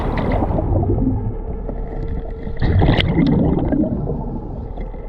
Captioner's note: suspenseful music continues; water bubbling